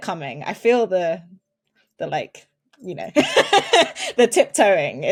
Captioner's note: laughs